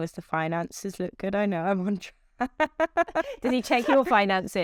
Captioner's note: laughs